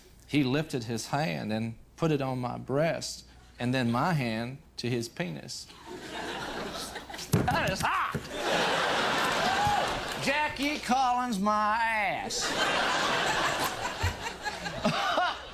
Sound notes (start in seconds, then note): 8.5 crowd laughing